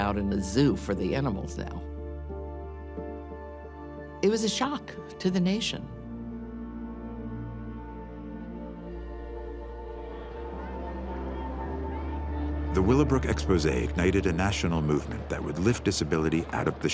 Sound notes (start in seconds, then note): 9.8 people talking in background